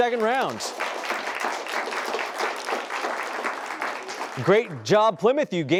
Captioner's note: applause